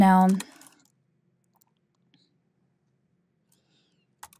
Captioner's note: keyboard clacking